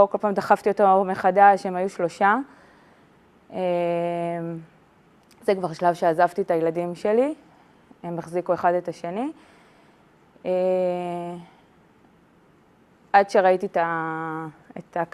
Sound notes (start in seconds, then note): 5.7 speaking in Hebrew